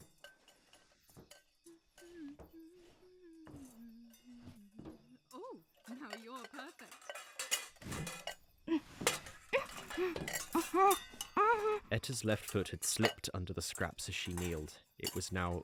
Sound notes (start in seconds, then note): 0.0 sable walks, hums 'sumer is icumen in'; 5.7 metal clatters, scrapes